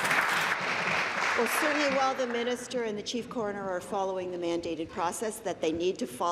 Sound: applause

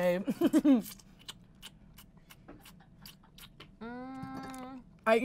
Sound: sucking noises

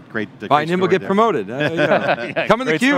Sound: everyone laughs

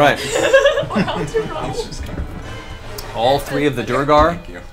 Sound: all laugh

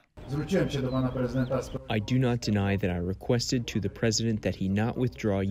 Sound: through translator

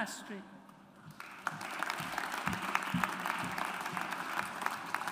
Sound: audience applauds

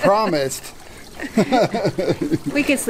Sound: laughter

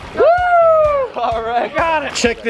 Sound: cheering

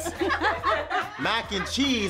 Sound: others laugh

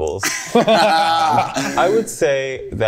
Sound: group laughing

